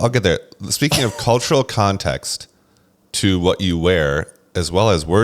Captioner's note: laughs